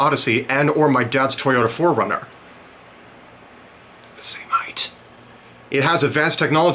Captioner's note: whispering